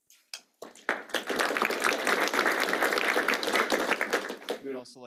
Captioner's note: applause